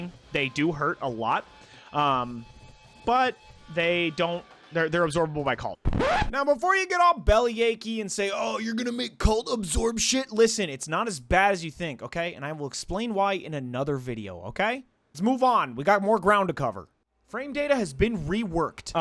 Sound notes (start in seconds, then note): 5.8 record scratch, VO